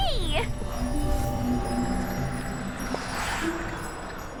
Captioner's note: magical buzzing